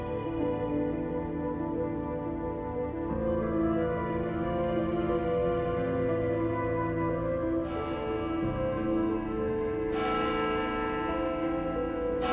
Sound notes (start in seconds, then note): 7.6 church bell chiming